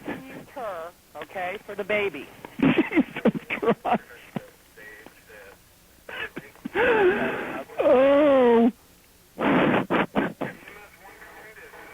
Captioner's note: crying